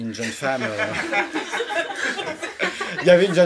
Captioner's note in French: rires